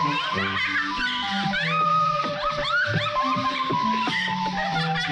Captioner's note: Jonelle laughing